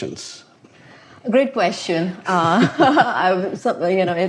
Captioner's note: chuckles